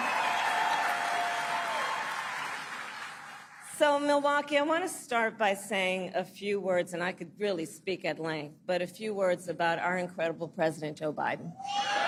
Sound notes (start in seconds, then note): 0.0 applause; 0.0 cheering and applause